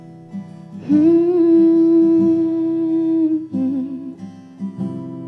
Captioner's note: humming